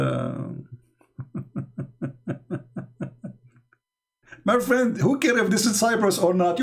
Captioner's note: Ketawa